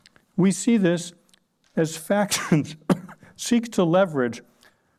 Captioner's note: coughs